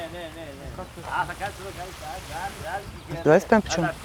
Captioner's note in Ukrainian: грецька мова